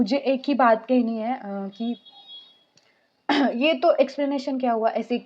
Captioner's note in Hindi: गला साफ़ करने की आवाज़